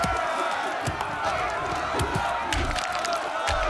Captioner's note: rock thuds; all shouting